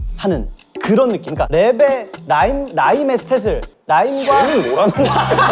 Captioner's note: stammers